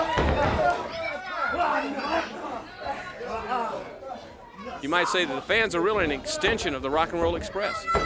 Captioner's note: crowd cheering